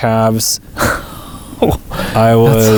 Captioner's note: laughs